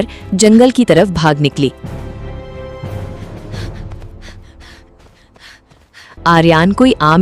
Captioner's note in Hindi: हांफने की आवाज़